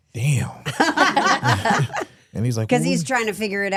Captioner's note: hosts laughing